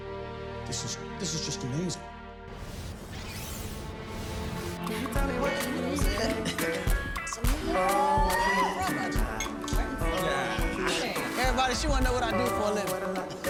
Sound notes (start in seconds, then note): 4.5 upbeat music; 6.6 party din